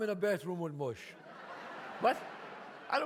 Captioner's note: audience laughs